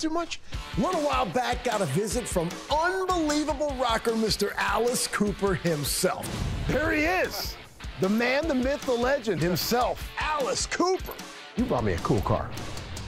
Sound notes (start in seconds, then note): 6.8 laughs